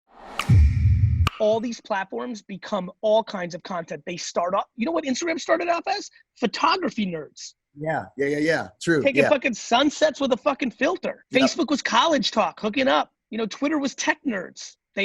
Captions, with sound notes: (air whooshes) (clicking) - All these platforms become all kinds of content. You know what Instagram started off as? Photography nerds. - Yeah. Yeah, yeah, yeah, true, yeah. - Taking fucking sunsets with a fucking filter. Facebook was college talk, hooking up. You know, Twitter was tech nerds.